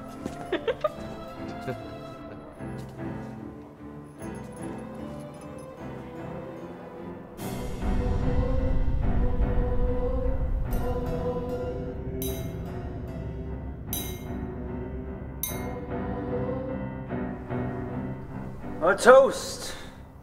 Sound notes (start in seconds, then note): 0.2 Thomas and Liza laugh; 6.6 eerie music; 10.3 wine glass clinks